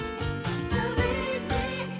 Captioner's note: none